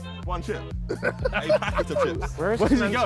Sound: all laughing

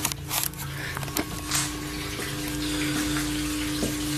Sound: water running

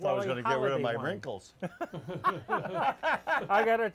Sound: all laugh

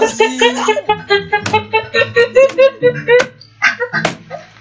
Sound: is laughing and hitting the desk at the same time

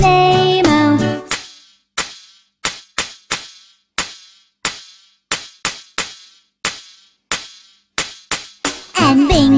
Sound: clap

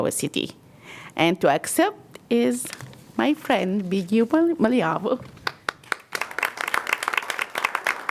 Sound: applause

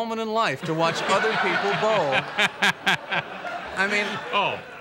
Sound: Letterman laughs

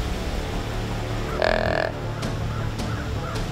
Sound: buck grunt

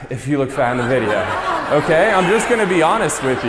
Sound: audience laughs loudly

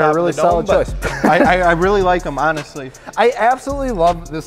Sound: laughing

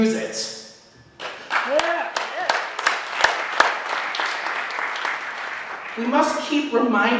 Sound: applause

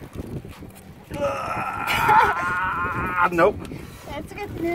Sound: straining

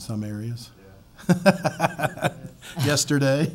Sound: laughs

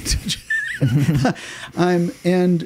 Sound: laughing

